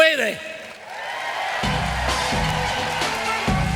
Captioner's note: audience cheering; lively band music